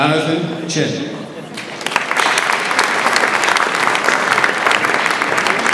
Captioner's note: audience applauds